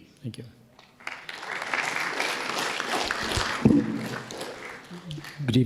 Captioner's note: audience applauding